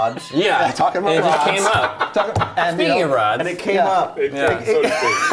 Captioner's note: laughter